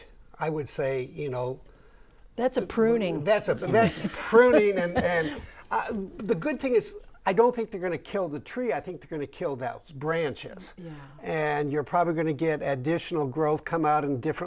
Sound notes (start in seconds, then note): 3.5 laughing